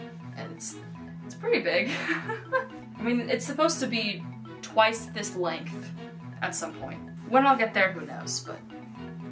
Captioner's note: laughter